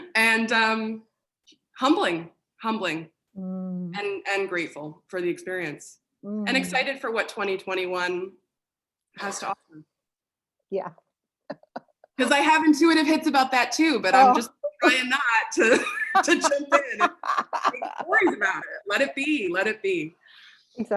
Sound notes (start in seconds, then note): 11.5 laughs; 15.6 laughter